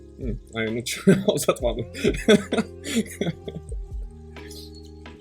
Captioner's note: laughter